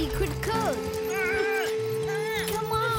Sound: bleating

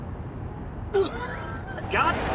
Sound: vomiting

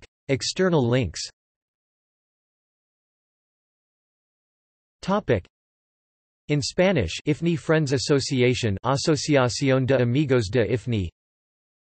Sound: in Spanish

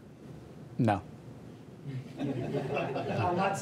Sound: laughter

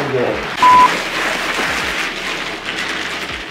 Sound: beep

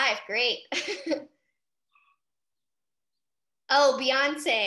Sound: laughs

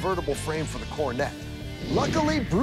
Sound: swish

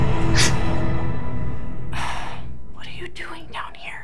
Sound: gasps

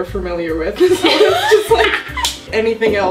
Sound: both laugh; claps

